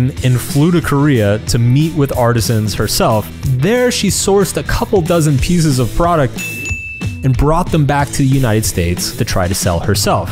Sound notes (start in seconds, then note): 6.3 arrow chimes